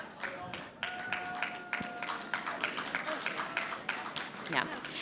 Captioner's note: audience applauding